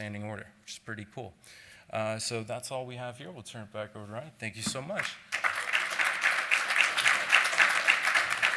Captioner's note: applause